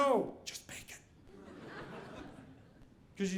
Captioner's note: audience laughing